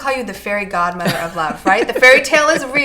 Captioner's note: laughing